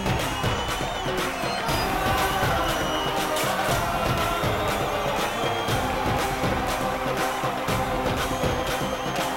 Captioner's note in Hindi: तालियाँ